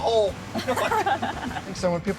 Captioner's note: laughing